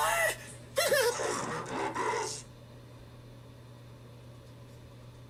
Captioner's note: cries; spooky voice speaking